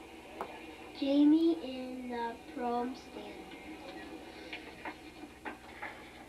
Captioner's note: tape cassette playing